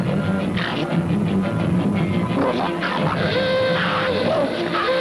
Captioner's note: alien speaking in foreign language; horn blaring